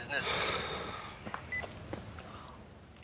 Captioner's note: sighs